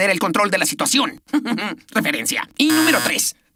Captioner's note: giggles